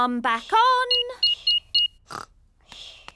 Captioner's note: beeping